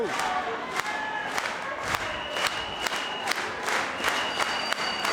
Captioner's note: spectators clapping rhythmically